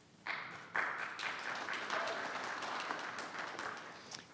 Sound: audience applauding

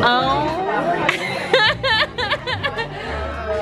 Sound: laughing

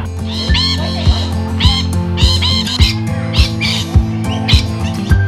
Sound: squawking birds

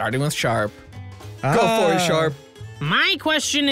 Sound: cheers

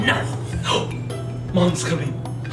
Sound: gasps

